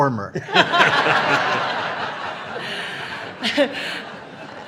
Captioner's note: audience laughing